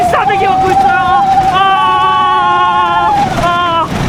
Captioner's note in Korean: 아아아아아아아아아아